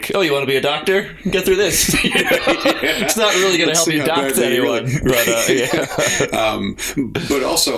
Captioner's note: laughter